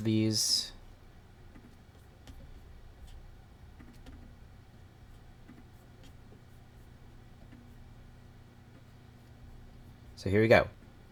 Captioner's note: silence